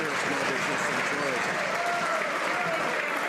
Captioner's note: some Applause